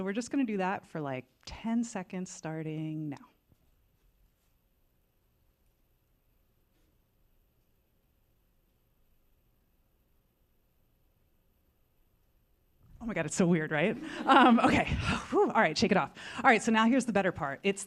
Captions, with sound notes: So we're just gonna do that for like 10 seconds starting now. -Oh my God, it's so weird, right? [laughter] -Um, okay. All right, shake it off. All right, so now here's the better part.